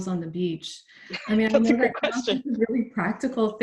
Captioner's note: laughing